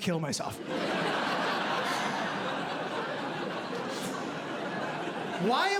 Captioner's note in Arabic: ضحك